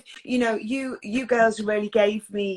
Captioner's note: none